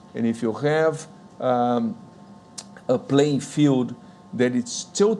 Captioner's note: none